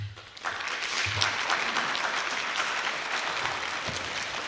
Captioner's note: applause